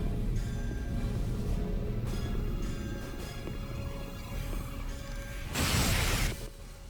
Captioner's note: explosion